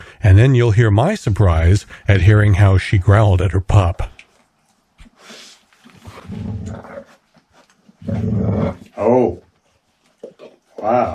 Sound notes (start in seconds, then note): 6.0 soft growl; 8.0 louder growl